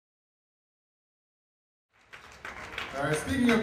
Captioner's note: applause